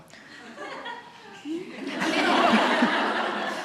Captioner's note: laughter